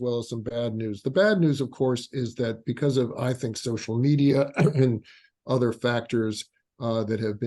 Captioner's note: cough